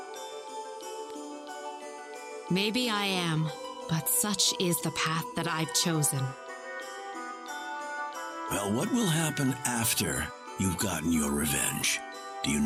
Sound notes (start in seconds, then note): none